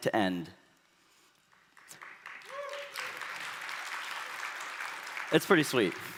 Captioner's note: applause